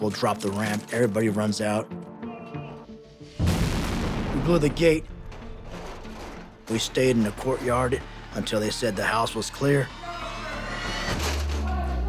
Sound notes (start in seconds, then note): 3.4 bomb blast